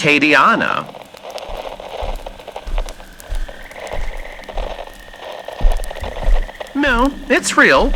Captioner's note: walking on carpet fx, bayou sound fx